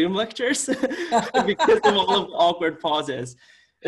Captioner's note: both chuckling